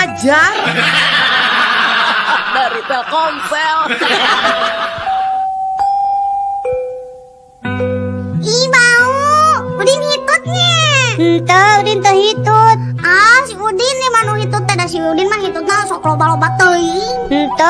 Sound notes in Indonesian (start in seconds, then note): 5.1 tertawa